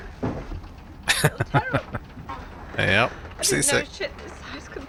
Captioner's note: laughing